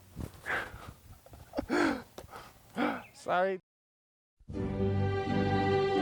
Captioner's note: laughs